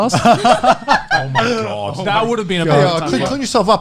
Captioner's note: laughing